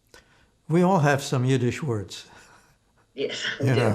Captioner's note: laughing